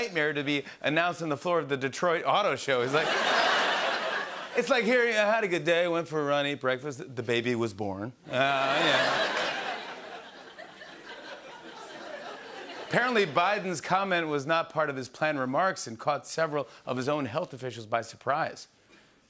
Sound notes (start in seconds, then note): 10.9 laughter